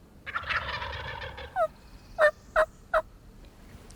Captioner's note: turkeys gobbling